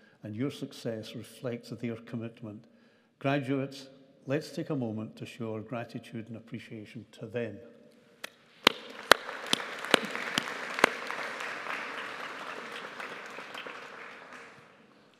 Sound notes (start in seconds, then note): 8.6 audience applauding